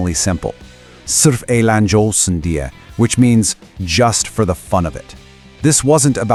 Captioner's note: in Turkish